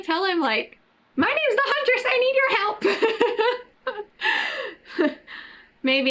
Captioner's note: laughs